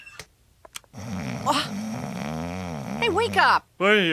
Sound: Homer snoring

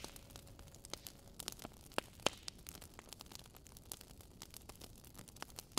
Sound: crackling fireplace

